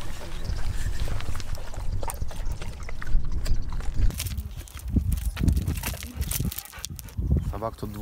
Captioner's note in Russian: собака жуёт и радуется